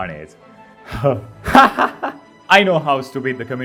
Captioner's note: evil laugh